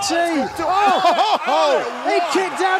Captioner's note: laughter